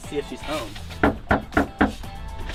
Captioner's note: knock